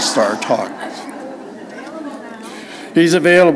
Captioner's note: laughter